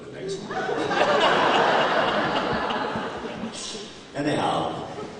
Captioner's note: more laughter